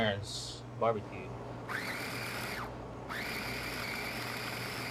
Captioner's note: machine grinding and whirling